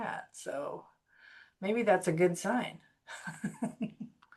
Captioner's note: laughs